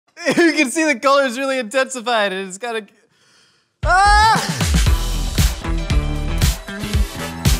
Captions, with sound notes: - You can see the color's really intensified, it's got a- (screams) (upbeat music)